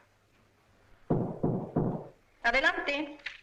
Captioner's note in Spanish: Llaman a la puerta